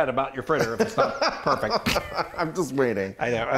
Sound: laughing

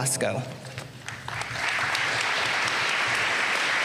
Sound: applause

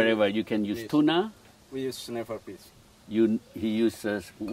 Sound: chef speaking

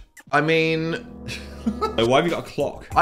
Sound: dramatic music; laughs

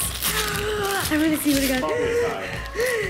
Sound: gasp

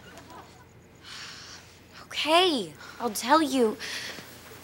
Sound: sighs

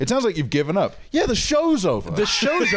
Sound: laughs

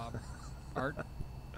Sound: laughter

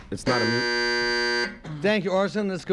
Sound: buzzer sounds

